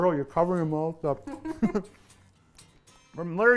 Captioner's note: laughter